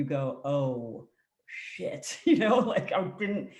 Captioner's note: laughs